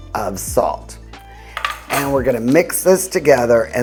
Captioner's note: slow music; utensils clinking